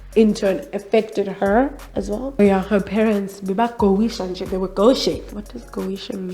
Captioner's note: speaks Xhosa